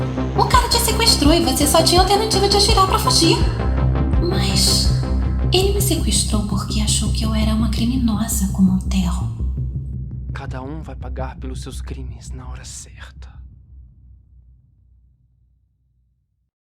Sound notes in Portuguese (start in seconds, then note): 10.1 sussurra